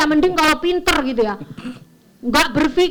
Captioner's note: laugh